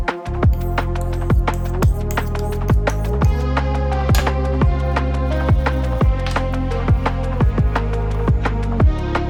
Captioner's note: cutting + chopping